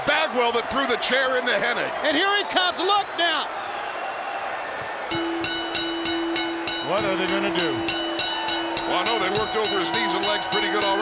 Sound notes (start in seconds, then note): 5.1 bell ringing